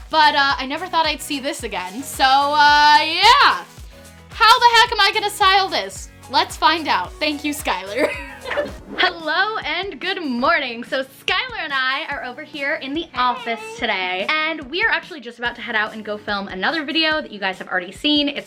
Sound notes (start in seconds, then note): 7.9 laughs